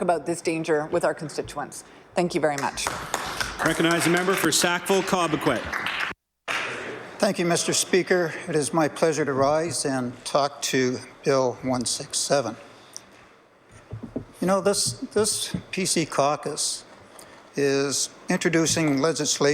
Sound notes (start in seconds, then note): 5.9 applause